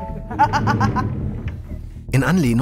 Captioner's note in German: Lachen